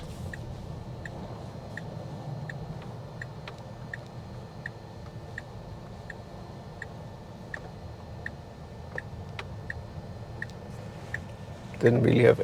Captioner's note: car engine